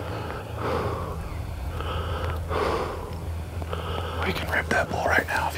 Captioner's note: breathing heavily